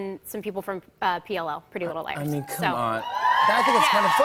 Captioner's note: cheers and applause